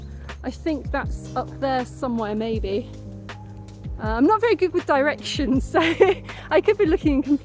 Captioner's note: laughing